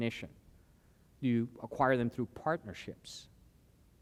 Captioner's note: none